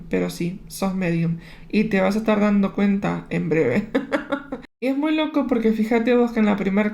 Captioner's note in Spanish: risas